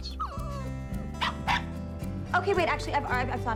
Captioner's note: willis yaps